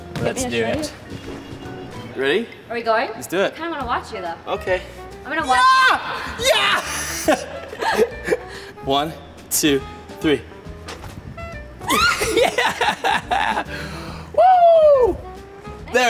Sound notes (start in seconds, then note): 5.5 screams; 6.5 both laugh; 11.8 Nastia screams; 11.9 laughs